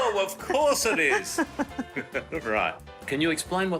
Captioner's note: laughing